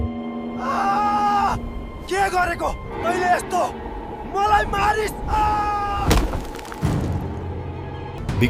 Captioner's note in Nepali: चिच्याएको आवाज